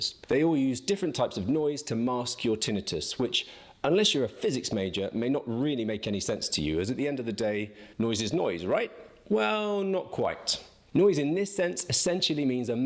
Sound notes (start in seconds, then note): none